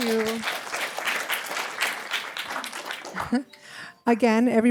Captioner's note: applause